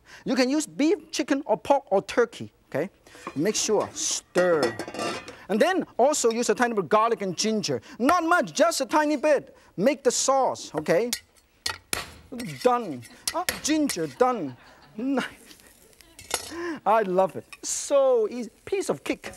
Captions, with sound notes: You can use beef, chicken, or pork or turkey, okay? Make sure stir. And then also use a tiny of garlic and ginger. Not much just a tiny bit. Make the sauce, okay. (knife clangs) Done. Ginger done. I love it. So easy, piece of cake.